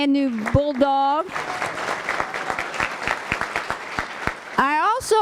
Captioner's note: applause